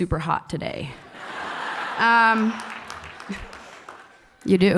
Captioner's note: laughs and applause